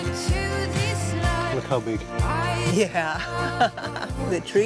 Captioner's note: laughs